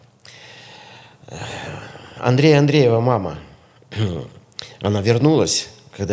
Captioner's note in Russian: вздыхает